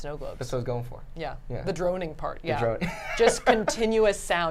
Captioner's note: laughs